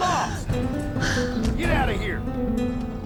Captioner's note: guadalupe speaking spanish